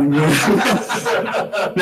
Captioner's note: laughter